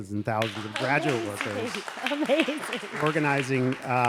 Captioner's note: audience clapping